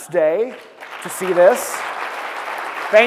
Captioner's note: applause